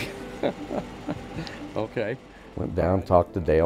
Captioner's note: laughs